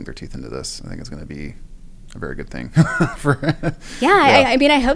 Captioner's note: laugh